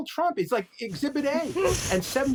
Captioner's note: hosts laughing